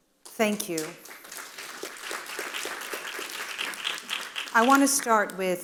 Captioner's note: audience applauding